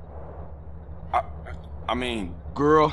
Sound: stutters

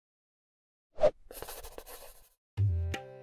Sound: notebook whooshes; pencil scratches; paper rustles; light music

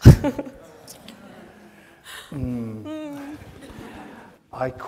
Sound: audience laughs

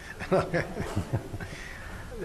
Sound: laughter

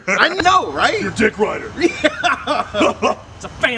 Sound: GRUNDY and STONE laughing

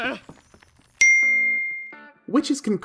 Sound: chimes

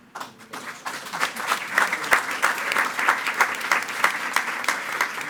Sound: attendees clapping

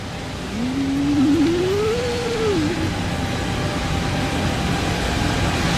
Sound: white noise of panic builds

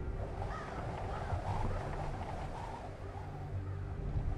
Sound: crow cawing

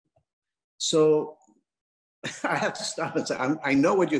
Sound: laughs

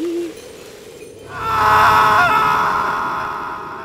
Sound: screams

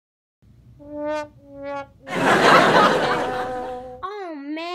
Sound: trombone music; audience laughs

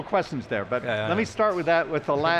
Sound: laughs

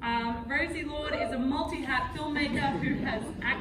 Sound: audience laughing

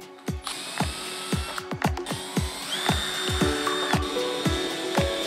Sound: drill machine drilling

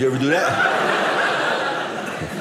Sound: audience laughing

